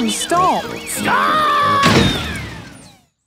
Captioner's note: thuds